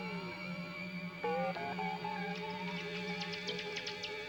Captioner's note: none